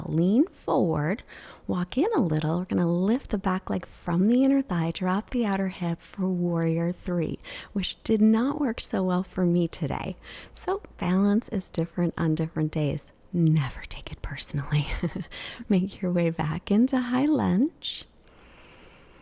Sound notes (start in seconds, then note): 14.9 chuckles